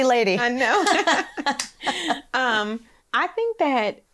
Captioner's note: laughs